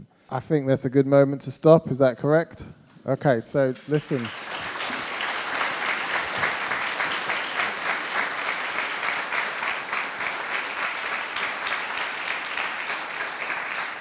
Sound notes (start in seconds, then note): 4.9 audience applauding